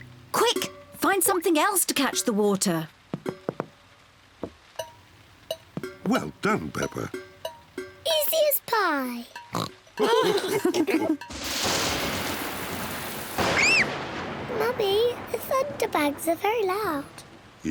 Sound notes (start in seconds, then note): 9.5 oinks; 10.0 all laughing; 11.3 thunder rumbles; 13.4 screams